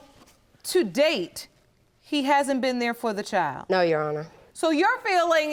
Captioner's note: none